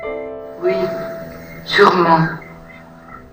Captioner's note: voiceover of woman speaking in french